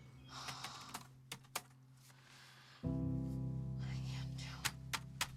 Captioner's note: birds chirping; Cassie sighing